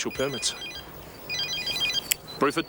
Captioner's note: phone ringing